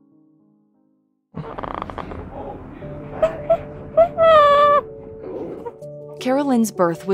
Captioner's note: cooing